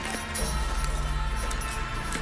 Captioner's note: horses neigh